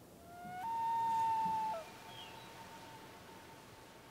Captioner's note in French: cri de huard